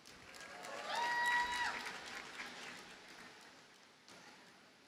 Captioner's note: audience cheers and applauds